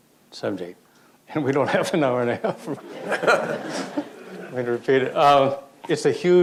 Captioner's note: audience laughter